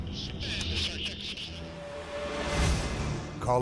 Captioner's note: voiceover